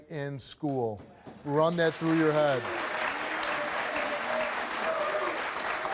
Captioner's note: audience applauds